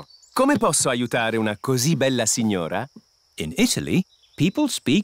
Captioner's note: speaks italian